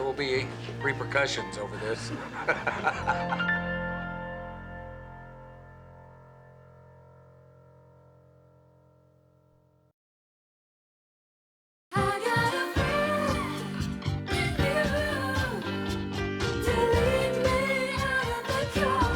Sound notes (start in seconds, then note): 1.7 chuckles